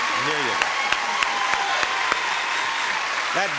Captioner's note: audience applauding